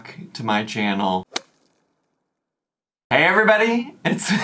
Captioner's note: golf club whacking